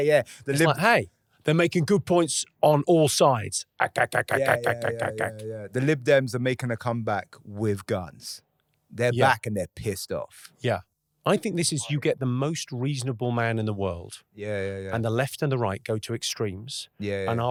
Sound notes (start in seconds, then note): 3.8 Jimmy pew-pewing